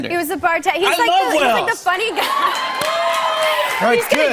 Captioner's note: cheers and applause